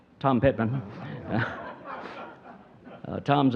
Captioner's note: audience chuckling